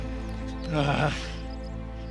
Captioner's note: growls